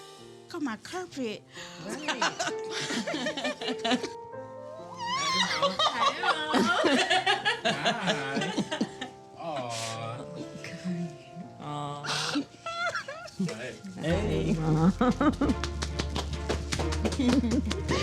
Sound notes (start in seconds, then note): 1.9 all laughing; 5.3 all laughing; 12.0 crying